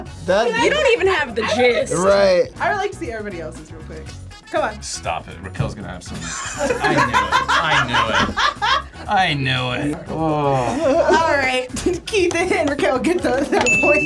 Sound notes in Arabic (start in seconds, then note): 6.3 تضحك; 13.6 قرع الجرس